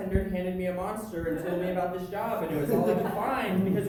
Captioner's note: audience laughter